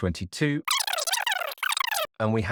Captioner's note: voice squeaking rapidly